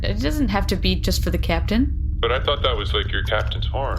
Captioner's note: quietly